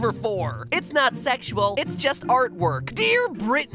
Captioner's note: mocking Britney